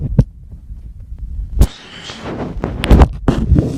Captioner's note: camera feedback